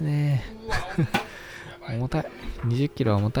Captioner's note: laughs